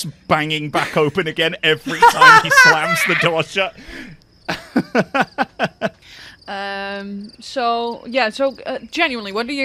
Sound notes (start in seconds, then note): 4.5 laughter